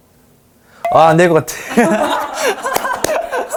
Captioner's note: clap